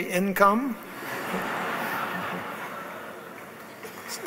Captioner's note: laughs